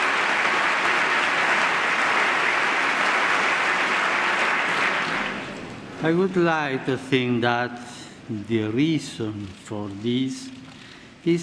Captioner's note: applause